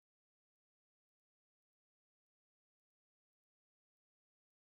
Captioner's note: none